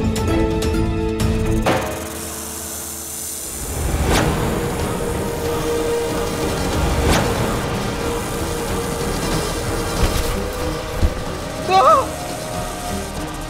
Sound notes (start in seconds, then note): 6.9 dramatic music; 11.5 gasping